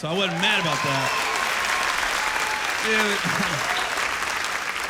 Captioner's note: cheers and applause